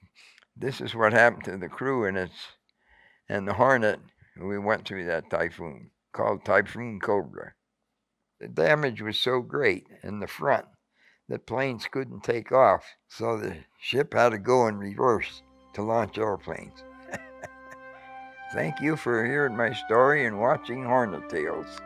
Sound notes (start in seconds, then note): 17.0 chuckling